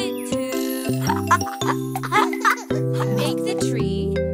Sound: chuckling

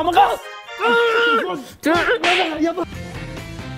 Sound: palestinian attack noises

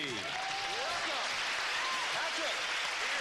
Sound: applause

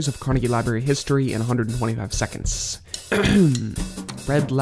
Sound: clears throat

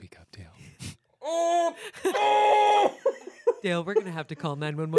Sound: yells

